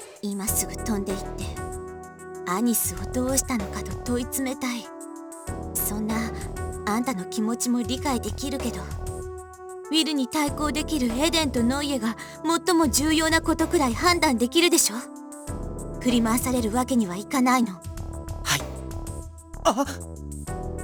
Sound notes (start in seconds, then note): 19.6 realizing gasp